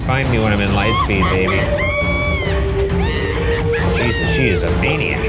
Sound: Agatha laughing

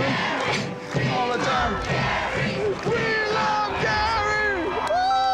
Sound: chanting

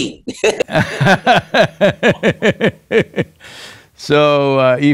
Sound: both laugh

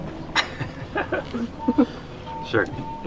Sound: laughing

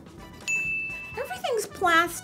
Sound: bell dings

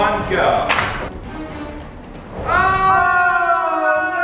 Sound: clacking

